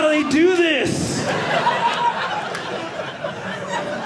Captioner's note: audience laughing